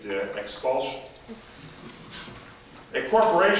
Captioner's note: chuckling